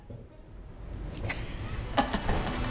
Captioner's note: laughing